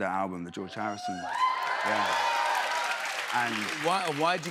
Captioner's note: cheers and applause